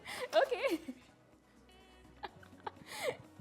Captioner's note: laughs